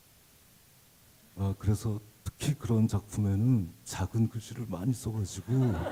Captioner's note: speaking Korean; laughter